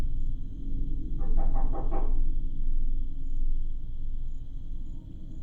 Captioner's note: knocking at the window